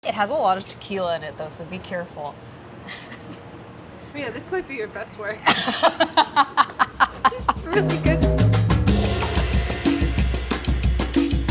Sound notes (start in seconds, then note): 5.4 laughs; 8.4 percussion music